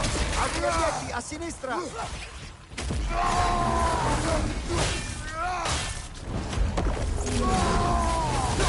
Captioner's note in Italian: urlo